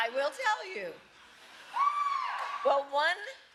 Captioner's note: applause